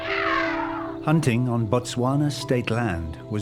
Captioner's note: trumpeting